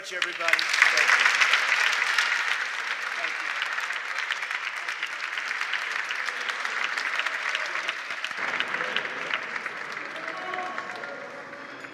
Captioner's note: applause